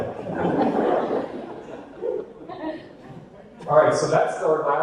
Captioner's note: audience laughter